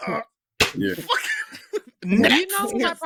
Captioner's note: laughter